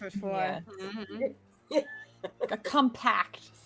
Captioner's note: laughing